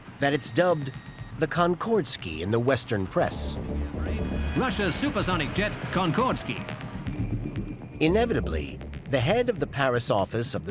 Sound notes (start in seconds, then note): 4.5 radio voice